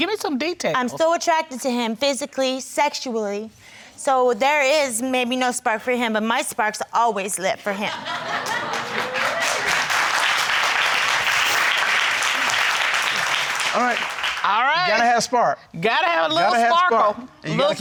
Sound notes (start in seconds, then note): 8.0 crowd cheering